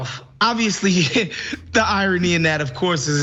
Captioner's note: laugh